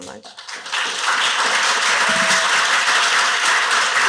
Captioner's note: applause